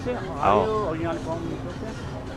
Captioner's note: amharic